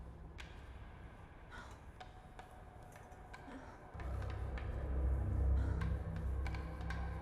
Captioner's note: Avis pants and moans; tense percussive music